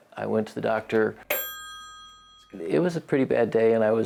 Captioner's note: bell dings